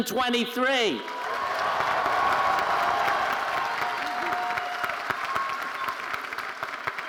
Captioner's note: audience cheering and applauding